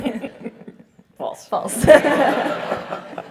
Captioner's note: laugh